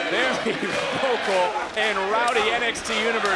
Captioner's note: laughs